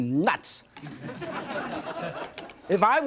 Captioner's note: audience laughing